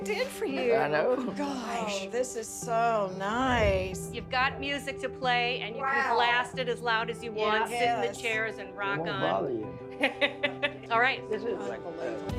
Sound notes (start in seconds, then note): 9.9 laughs